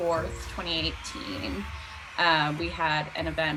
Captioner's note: crowd Cheering